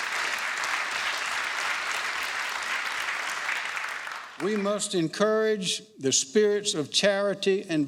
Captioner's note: applause